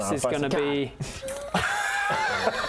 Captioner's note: indecisive laughter